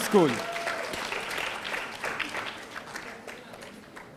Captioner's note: audience applauding